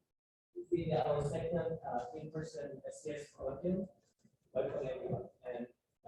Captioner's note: speaking faintly